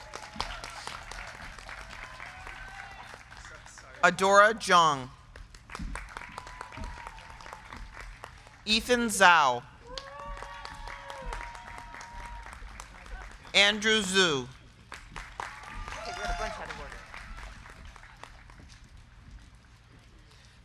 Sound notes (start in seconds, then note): 0.0 crowd cheering; 0.1 crowd clapping; 5.8 crowd clapping; 5.9 crowd cheering; 10.3 crowd cheering; 10.3 crowd clapping; 15.2 crowd cheering; 15.4 crowd clapping